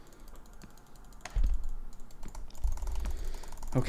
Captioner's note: fierce clicking noises